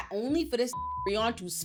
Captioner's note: beep